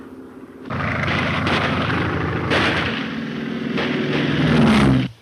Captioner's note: guns firing